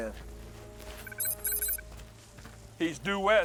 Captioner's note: scanner beeps